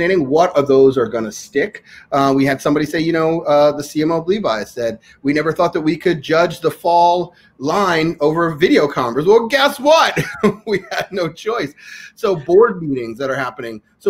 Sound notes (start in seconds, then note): 10.1 laughs